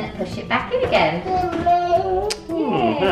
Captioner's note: baby talking